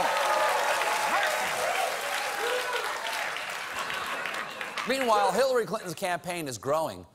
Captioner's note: applause